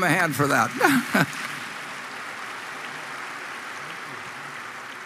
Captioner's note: Applause; 掌聲